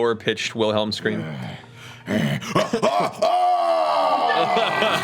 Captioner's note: roaring